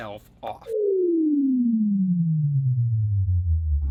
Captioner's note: powering Down Sound